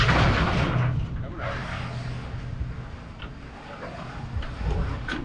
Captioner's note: roofing sheet rattling